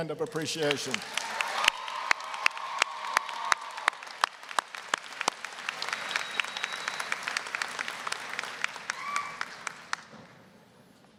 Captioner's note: applause, cheering